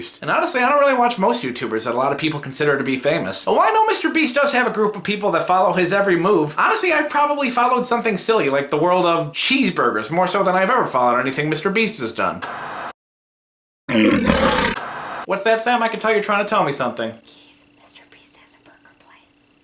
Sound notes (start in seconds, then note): 13.9 growling